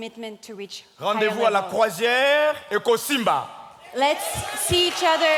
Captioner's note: speaking in French